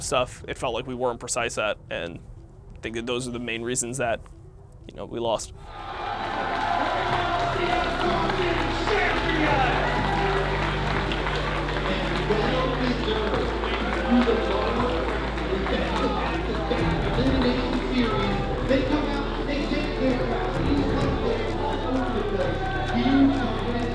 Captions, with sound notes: stuff, it felt like we weren't precise at, and I think that those are the main reasons that, you know, we lost. [crowd cheering] LCS European Champions. [upbeat music] And they deserve it. Through the lower... With that come back, that elimination series. They come out, they set their minds. These players all look at the view of each other as teammates. They put everything else on the line, and they take the EU Championship. The first